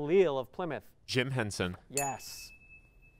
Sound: ding

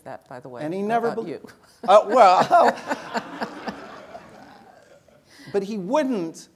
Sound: laugh

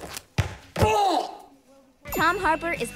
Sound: groaning

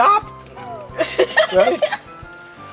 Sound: assistant laughs

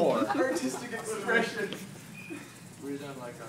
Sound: crying

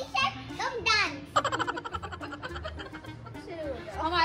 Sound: laughter

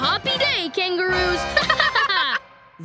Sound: laughing

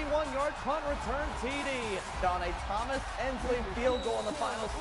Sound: cheering, then music

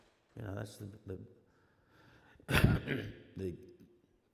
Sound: coughs

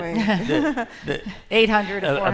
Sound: laughter

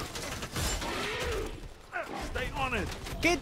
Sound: guns firing; Predator screaming

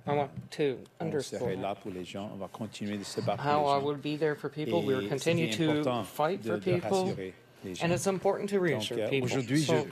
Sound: speaking French

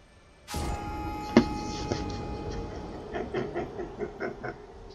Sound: chuckles

